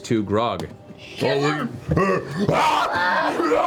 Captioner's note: yells